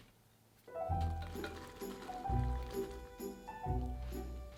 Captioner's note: beans dropping